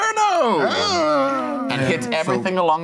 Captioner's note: groaning